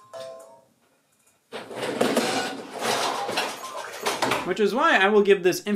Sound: cooking ware crashing

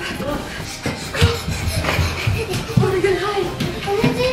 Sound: panting heavily

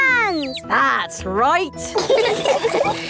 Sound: all laughing

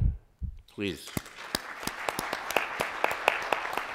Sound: applause

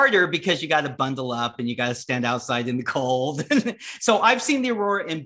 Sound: laughs

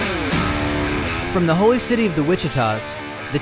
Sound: invigorating rock music; voiceover

